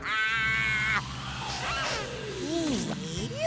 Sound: laughing; sniffing

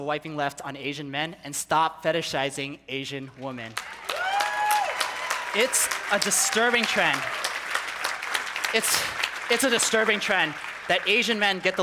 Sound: people cheering

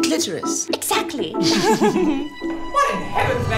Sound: both giggling

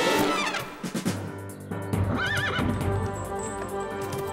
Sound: whinnies

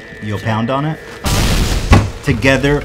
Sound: explosion sound

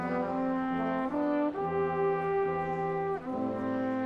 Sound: none

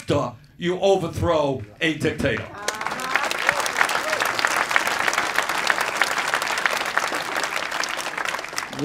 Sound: clapping

